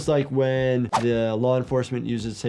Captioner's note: graphics swishing